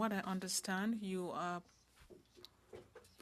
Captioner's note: speaking FRENCH